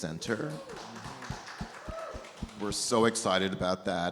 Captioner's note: audience applauds